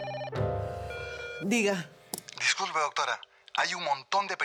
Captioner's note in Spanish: Suena el teléfono